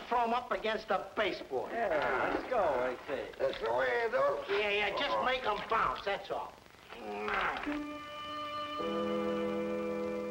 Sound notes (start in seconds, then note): 7.0 dice rolling; 7.9 tense music playing